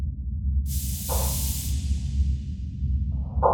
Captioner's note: steam hissing